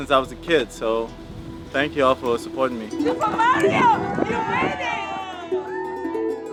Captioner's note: crowd cheers